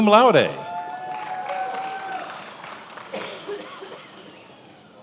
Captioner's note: attendees applauding